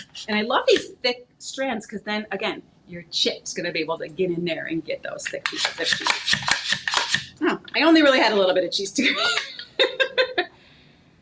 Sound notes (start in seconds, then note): 5.4 grater slicing; 9.2 laughing